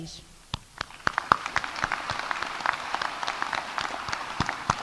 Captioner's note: audience applauding